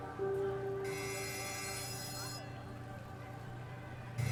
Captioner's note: bell rings